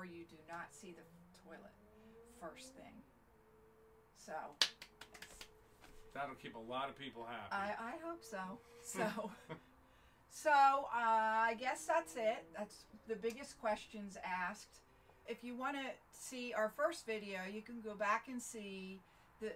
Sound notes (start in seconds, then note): 4.6 clapping